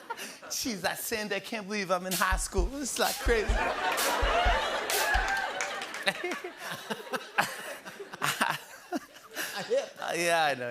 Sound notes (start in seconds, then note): 6.1 laughter